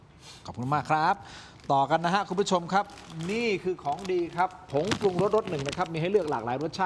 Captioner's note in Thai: เสียงสูดหายใจ